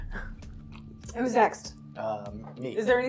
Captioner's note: laughing